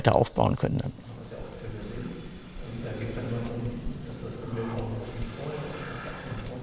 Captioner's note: quiet crackling, blowing